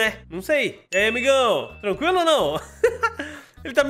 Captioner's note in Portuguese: risos